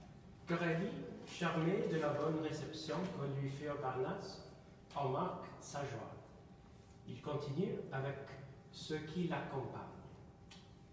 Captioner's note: speaking in a foreign language